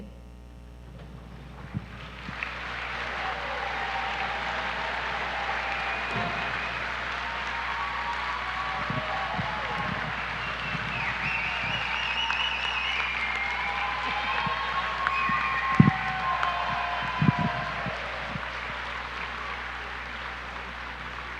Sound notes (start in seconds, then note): 0.6 applause; 8.4 cheers and applause